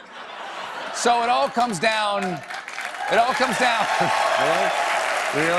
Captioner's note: applause